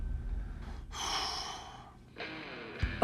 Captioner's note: exhales